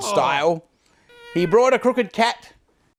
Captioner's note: cat meows